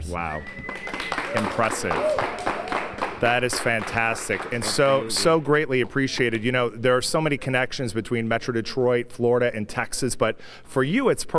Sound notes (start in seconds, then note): 5.1 cheers and applause